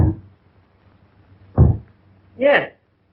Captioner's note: thumping